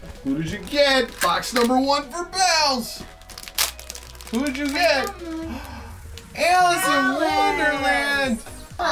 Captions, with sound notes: who did you get? Box number one for Bells, who did you get? (gasps) Alice in wonderland!